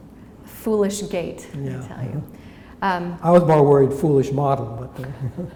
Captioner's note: chuckle